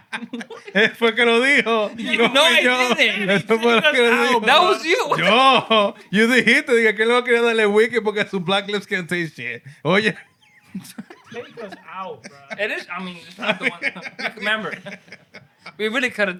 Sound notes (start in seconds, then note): 0.0 laughter; 0.8 speaking Spanish; 6.8 speaking Spanish